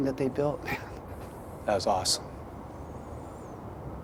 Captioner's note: laughs